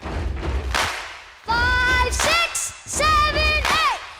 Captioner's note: clapping, stomping